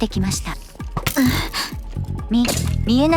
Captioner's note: gasps